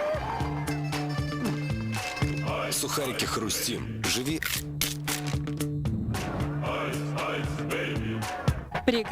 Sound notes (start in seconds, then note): 4.3 crunch